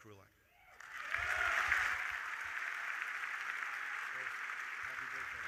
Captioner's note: audience applauding